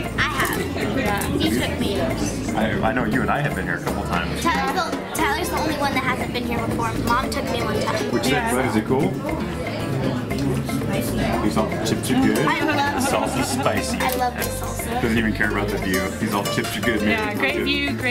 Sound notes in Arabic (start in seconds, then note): 12.5 يضحك